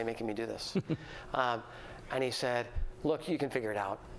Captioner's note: laughter